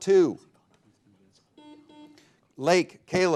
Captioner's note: buzzer beeping